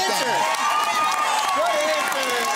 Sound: cheering and applause

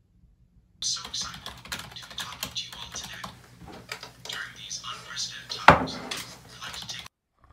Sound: frantic keyboard typing

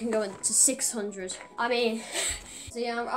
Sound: laughs

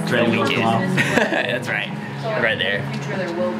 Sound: laughs

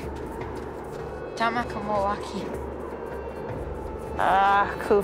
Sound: speaking foreign language

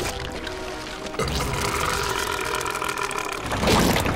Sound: belching

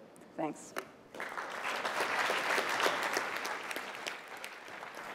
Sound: applause

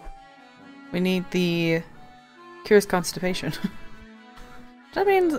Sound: laughs

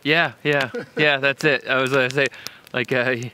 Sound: chuckles

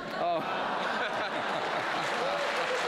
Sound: laughter; applause

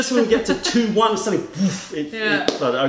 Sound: laughter

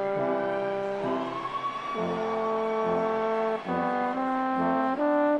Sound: audience cheers

